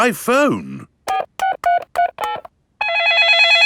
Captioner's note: dialing; cell phone ringing